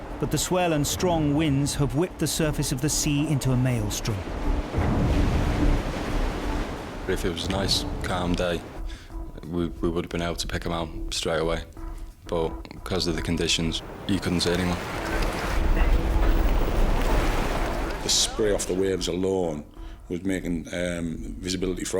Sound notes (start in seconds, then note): 4.1 wind whooshing; 4.4 waves crashing; 15.3 water splashes; 15.3 wind whooshing